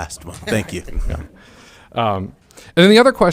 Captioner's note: laughing